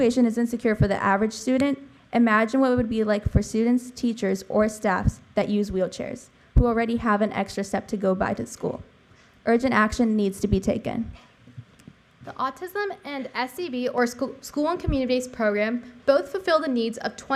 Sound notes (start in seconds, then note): none